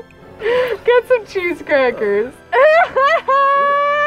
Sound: laughs

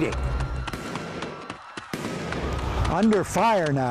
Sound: guns firing and people screaming

